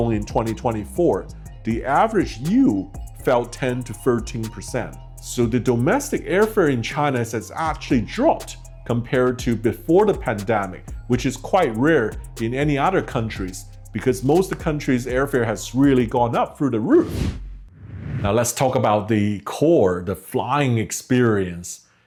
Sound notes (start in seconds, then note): 17.0 whooshing